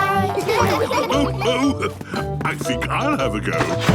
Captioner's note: laughs